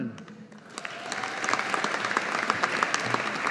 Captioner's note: audience applauding